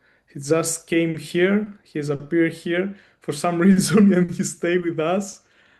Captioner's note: chuckles